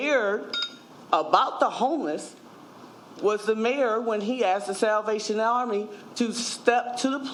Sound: ringing

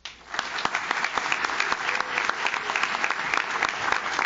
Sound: audience claps

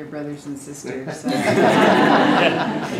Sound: laugh

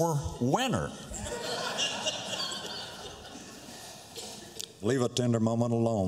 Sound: laughter

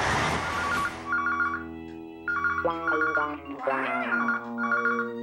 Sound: ringing

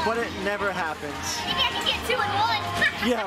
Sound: laughs

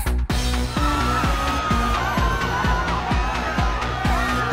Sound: all shouting

